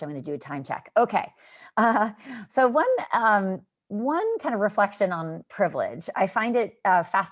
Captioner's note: laughter